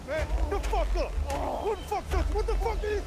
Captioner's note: man on knees groans